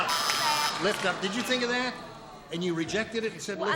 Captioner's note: buzzer